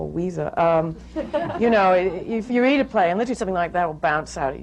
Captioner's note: laughter